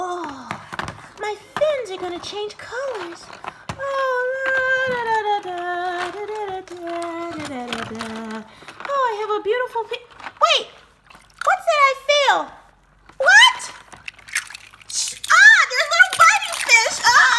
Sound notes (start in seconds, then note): 3.9 humming; 14.9 shrieks